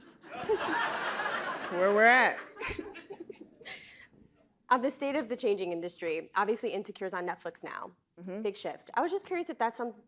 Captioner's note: laughter